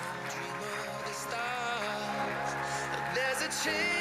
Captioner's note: audience cheering and applauding